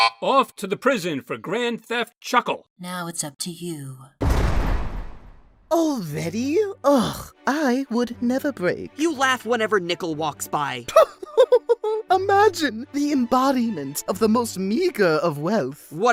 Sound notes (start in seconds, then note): 4.1 jail bars slam